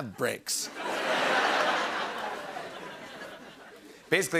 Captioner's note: laughter